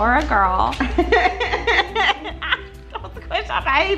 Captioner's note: laughing